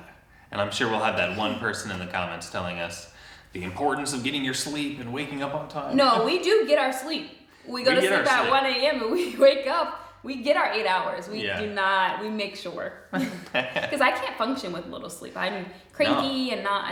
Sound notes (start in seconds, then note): 13.1 both chuckle